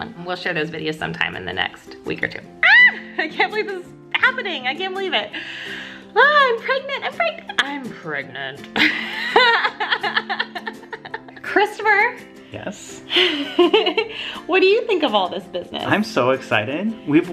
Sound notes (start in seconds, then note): 8.7 laughs; 13.1 laughs